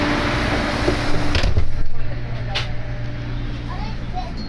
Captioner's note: none